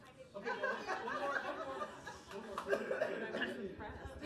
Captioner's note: group laughing